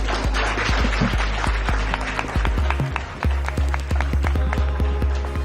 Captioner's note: applause